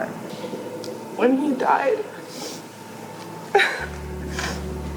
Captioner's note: sobbing